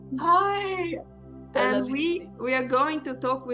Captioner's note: faintly speaking